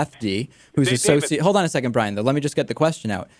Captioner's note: laughs